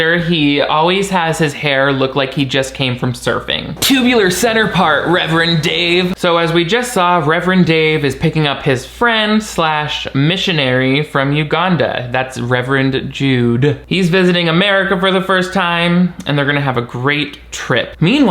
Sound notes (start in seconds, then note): 3.8 wave crashing; 4.6 waves crashing